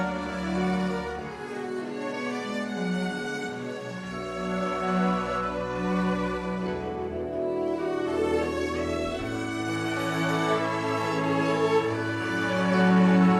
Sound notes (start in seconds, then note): none